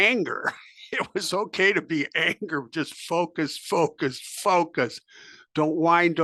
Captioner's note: laugh